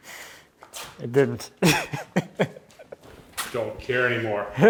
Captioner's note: laughs